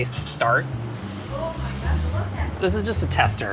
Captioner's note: soft up-tempo jazzy music; spray hisses